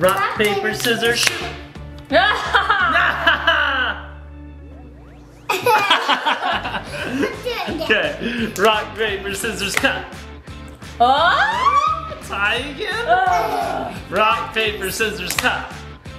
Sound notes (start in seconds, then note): 3.2 all laughing; 13.2 grunting